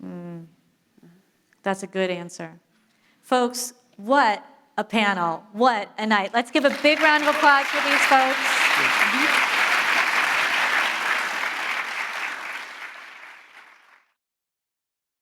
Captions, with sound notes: - Mm. That's a good answer. Folks, what a panel. What a night. Let's give a big round of applause for these folks. (audience applauding)